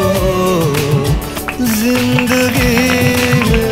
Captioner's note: People clapping